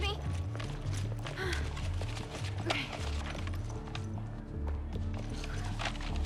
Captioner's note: sighs; sighs